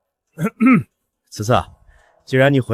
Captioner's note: cough